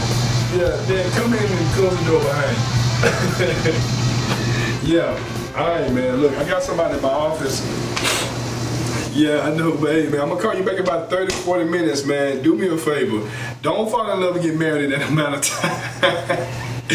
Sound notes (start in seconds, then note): 3.0 Kenny chuckles; 15.4 chuckles